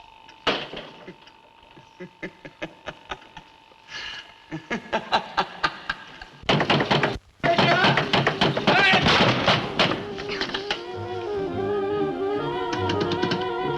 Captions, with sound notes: (Sinister laugh) (Knocking, banging) Patricia! Pat!